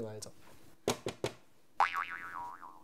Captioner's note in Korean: 노크 소리